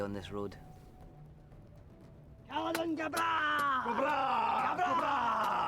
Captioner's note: men chant in foreign language